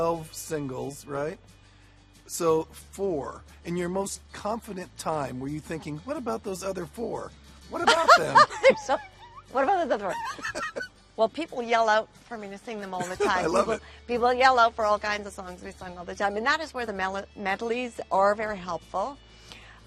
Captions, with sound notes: And "Come On Over" was 16 songs, 12 singles, right? So four. In your most confident time, were you thinking, "What about those other four?" - What about them? - [laughs] So what about those other four? Well, people yell out for me to sing them all the time. - I love it. - People yell out for all kinds of songs to be sung all the time, and that is where the medleys are very helpful.